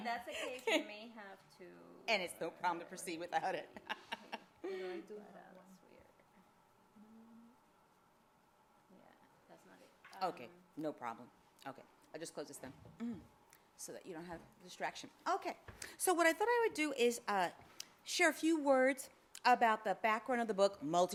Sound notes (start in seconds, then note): 3.9 laughs